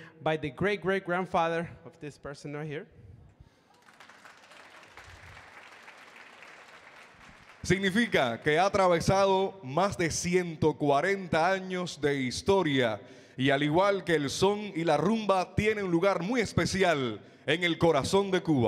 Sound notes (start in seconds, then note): 3.6 audience clapping; 7.9 MC speaking in Spanish